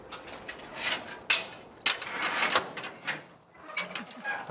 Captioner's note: chains clinking